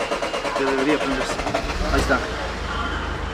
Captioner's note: engine starts; in Spanish